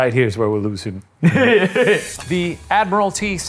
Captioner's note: laughs